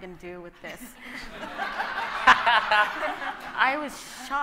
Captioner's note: audience laughing